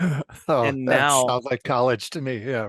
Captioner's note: chuckle; laugh